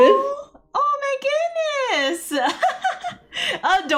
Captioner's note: laughs